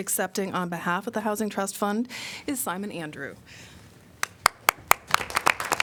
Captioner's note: applause